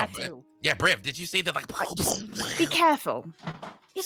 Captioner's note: imitates explosion